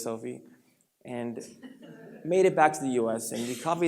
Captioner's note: light laughter